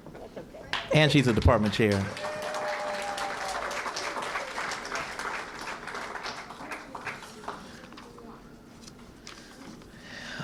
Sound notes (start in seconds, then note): 2.7 applause